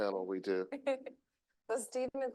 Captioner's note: chuckling